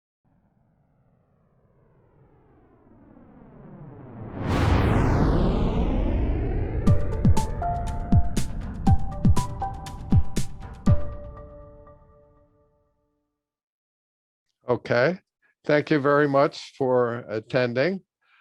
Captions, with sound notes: (rocket engine roaring) (upbeat music) - Okay. Thank you very much for attending.